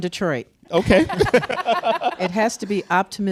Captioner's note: laughs